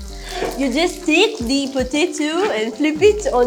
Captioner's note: in French accent